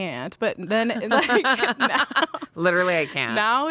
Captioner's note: everyone laughs